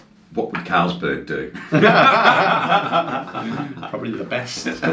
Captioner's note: laughing